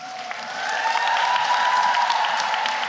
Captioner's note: applause